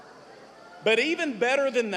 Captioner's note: cheers